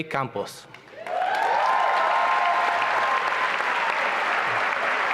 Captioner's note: applause and cheering